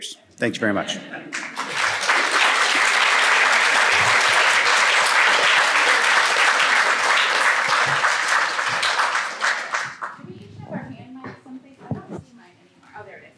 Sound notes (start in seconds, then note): 1.3 applause